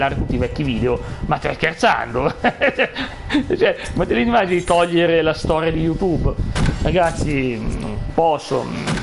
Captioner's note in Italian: risate